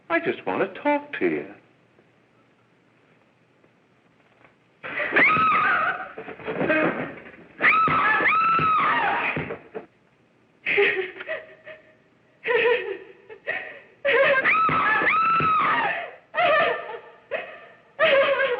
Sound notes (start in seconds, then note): 5.3 screaming; 6.2 thud; 7.6 screaming; 10.8 laughing; 14.0 screaming and laughing